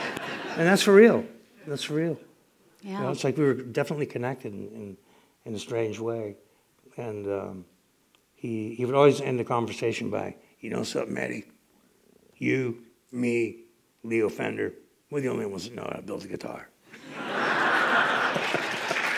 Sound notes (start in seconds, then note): 14.7 laughter; 17.8 applause